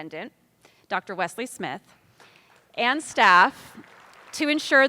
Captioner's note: attendees applauding